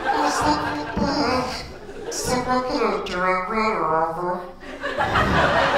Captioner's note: laughter